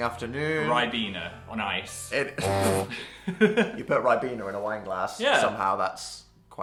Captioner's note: honk